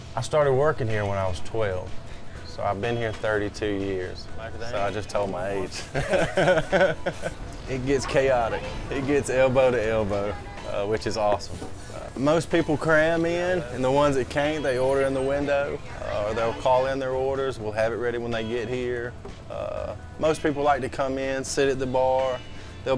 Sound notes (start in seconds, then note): 5.6 laughing